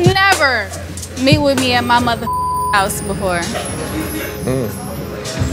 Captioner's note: beep